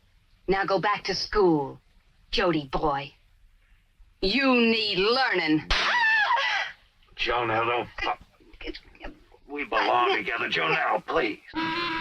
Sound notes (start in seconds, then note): 5.7 Jonelle screams; 7.0 Jody slaps